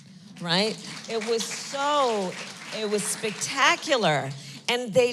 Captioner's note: applause